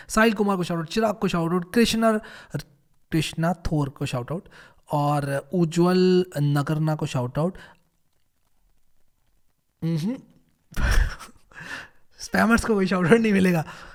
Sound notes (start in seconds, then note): 10.8 chuckles